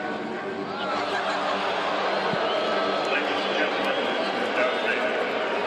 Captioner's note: crowd boos